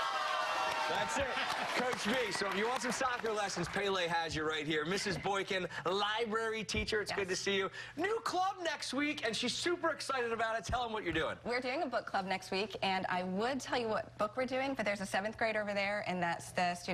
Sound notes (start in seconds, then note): 3.7 cheers and applause